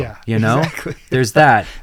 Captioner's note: chuckles